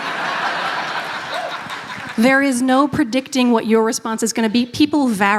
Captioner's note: laughter